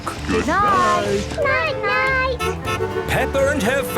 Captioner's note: honking